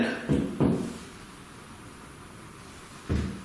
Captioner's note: thuds